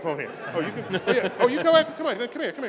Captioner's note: laughter